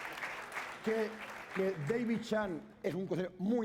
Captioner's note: speaking spanish